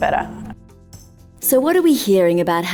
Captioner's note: voiceover